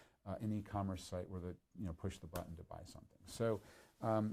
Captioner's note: none